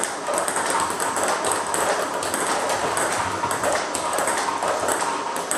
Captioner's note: ball ping pong hitting continues